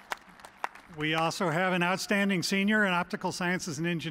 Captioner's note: cheers and applause